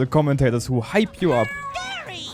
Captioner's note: mreow